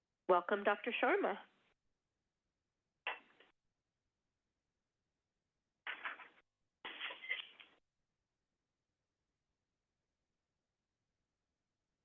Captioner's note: silence